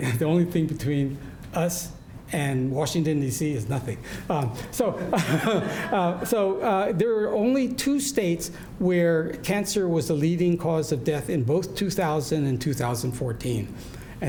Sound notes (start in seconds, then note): 4.9 laughs; 4.9 audience laughing